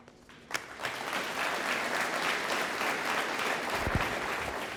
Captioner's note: audience applauding